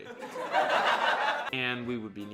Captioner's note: audience laughing